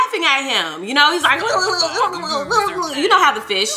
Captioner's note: mimicking underwater giggling